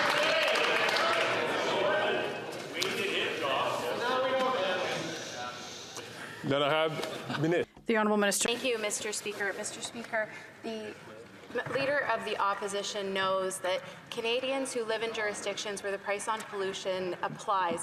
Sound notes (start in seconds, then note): 0.0 some Applause